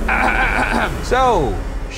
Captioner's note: clearing throat loudly